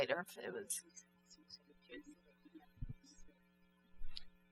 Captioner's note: speaking french